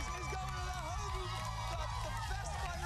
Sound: cheers and applause

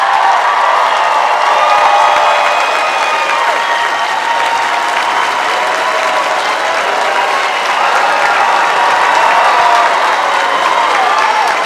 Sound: applause

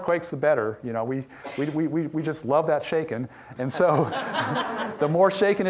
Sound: audience laughing

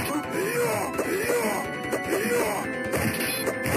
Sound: antagonist yell

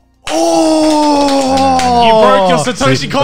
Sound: group clapping

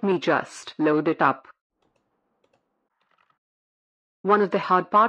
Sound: background SFX: A mouse clicks twice

